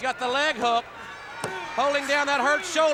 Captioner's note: hands thudding